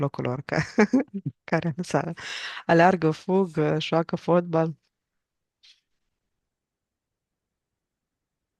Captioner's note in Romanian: râsete